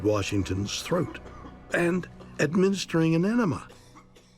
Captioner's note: man coughing